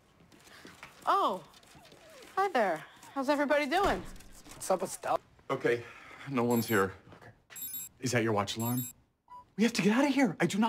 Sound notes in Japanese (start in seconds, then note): 7.5 アラーム音が鳴り